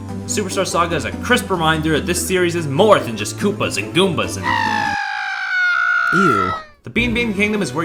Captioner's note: toad noise